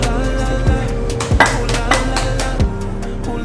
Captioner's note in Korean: 짝짝짝짝짝짝